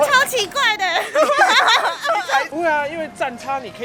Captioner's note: laughing